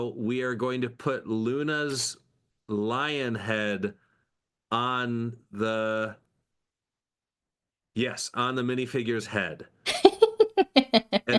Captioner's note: laughing